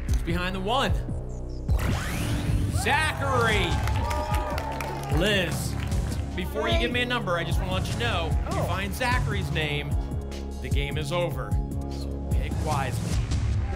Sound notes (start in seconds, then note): 2.7 applause and cheering